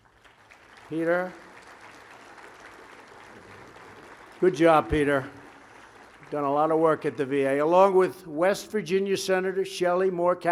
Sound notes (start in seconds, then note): 1.8 applause